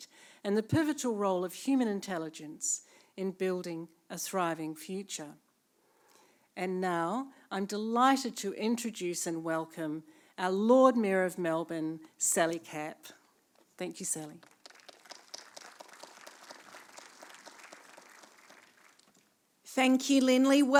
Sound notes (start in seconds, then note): 14.2 applause